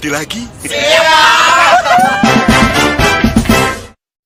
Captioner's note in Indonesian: berteriak